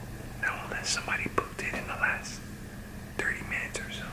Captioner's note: whipsers